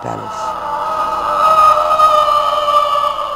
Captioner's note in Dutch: schreeuw van Agamemnon